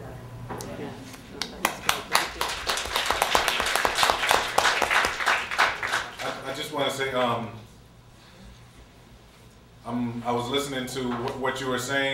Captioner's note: applause